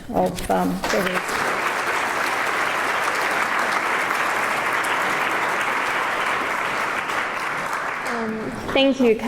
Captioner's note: applause